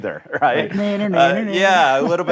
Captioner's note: childish taunting